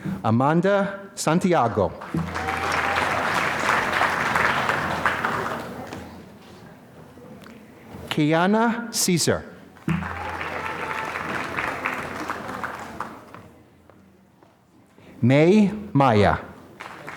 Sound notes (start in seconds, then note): 1.9 applause; 9.8 applause